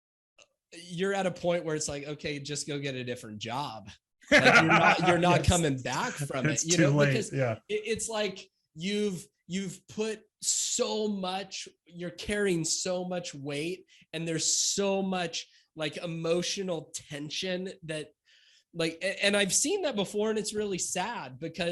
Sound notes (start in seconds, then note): 4.3 laughs